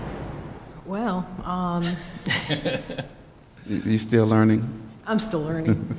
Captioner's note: laughter